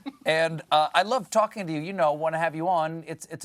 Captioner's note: laughter